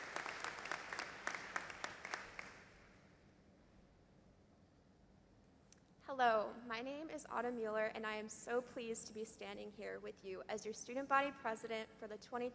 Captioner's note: applause